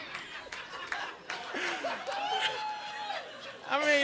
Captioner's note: audience laughing